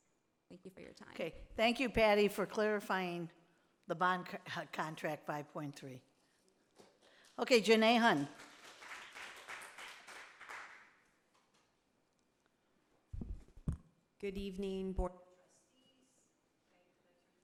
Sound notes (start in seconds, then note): 8.2 audience applauding